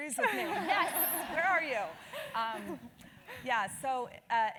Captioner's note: laugh